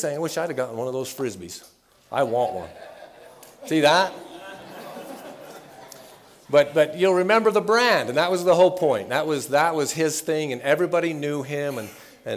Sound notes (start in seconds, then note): 4.0 laughter